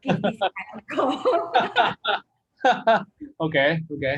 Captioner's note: both laugh